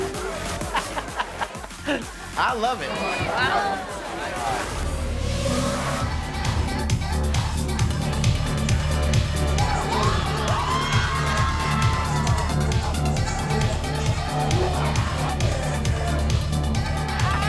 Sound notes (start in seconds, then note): 0.5 laughs; 6.1 upbeat music; 9.5 crowd screams